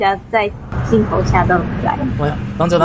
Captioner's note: The sound of Mommy Long Legs murdering Bunzo Bunny